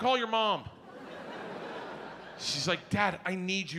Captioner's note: audience laughs